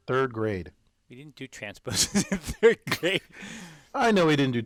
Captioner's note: laugh